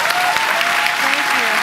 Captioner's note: applause